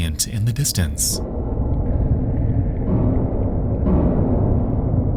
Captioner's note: creature banging